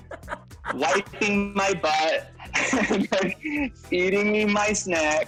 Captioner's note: Ben laughs; laughs